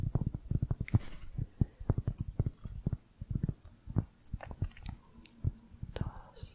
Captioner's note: tapping on cork